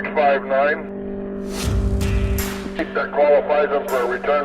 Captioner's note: car engine roaring